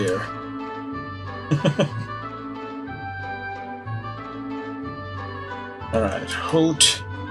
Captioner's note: chuckles